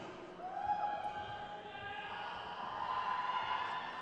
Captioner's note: crowd cheers